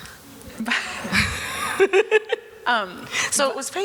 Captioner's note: chuckling